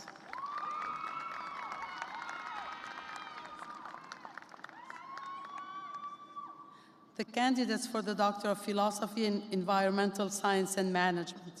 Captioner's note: cheers and applause